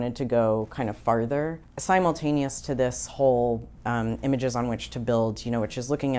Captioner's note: none